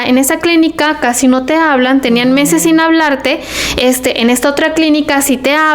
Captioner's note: sighs